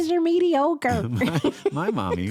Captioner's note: laughter